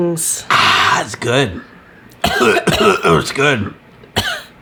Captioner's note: coughing